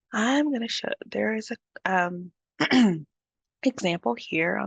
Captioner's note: clears throat